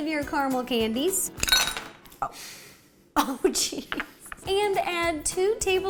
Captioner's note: clink